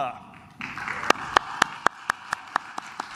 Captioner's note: claps